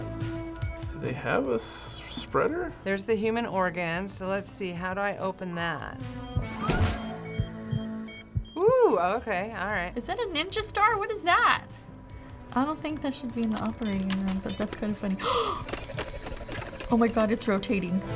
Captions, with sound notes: - Do they have a spreader? - There's the human organ, so let's see. How do I open that? (briefcase whirs) Ooh! Okay, all right. - Is that a ninja star? What is that? I don't think that should be in the operating room, but that's kind of funny. (gasps) Oh my god, it's rotating.